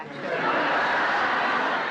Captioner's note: laughter